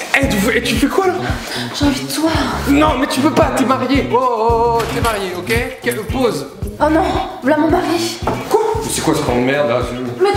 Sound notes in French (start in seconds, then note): 4.7 Bruit de porte